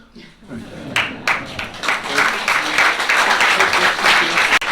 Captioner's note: laughter, applause